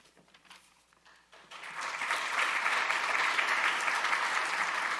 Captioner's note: audience applauding